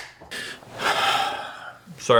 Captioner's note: blinds snapping shut; sigh